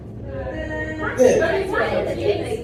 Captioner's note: mixed murmuring from crowd